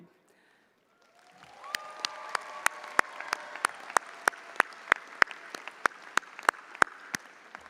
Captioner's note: audience applauding; audience cheering